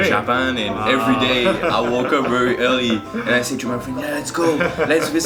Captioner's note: chuckles